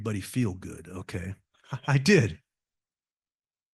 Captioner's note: laugh